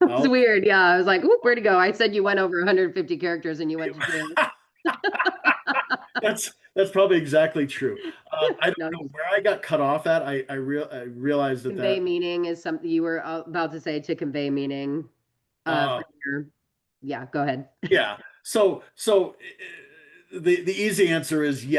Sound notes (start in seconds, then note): 4.8 laughter